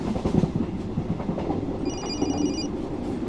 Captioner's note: cell phone ringing